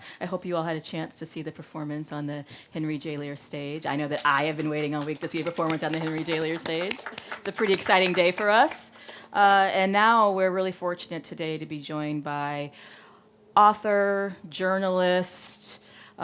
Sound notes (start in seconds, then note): 6.9 audience applauding